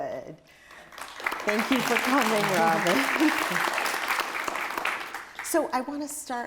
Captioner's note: audience applauds